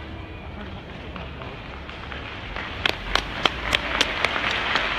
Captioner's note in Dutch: Start applaus; applaus